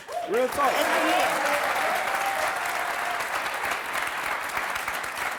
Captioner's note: clapping and cheering